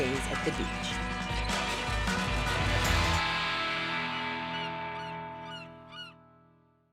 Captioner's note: energetic music; seagull squawking